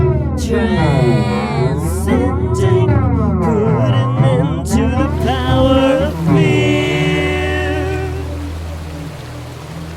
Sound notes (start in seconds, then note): 5.0 water running